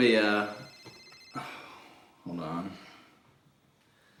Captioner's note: phone ringing